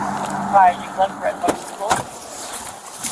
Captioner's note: radio chatter